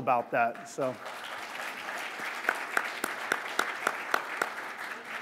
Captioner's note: applause